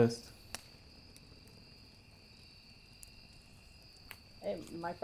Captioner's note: insects chirping